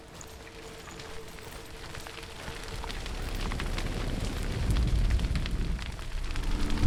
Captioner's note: sound of flames crackling grows louder